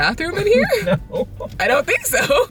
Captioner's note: chuckles